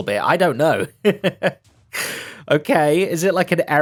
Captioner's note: laughs